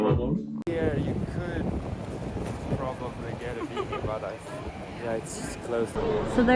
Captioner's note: background chat